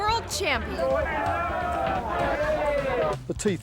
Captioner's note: people chattering